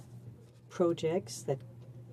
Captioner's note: speaking in french